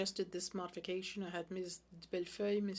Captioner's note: speaking French